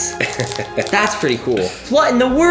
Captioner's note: dad chuckles